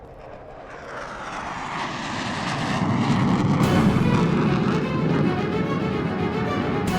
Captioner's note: aircraft whirring; tense music